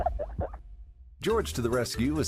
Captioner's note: laughs